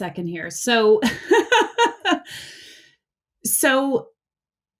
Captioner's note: laughs